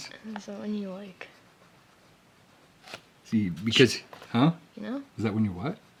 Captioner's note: whispering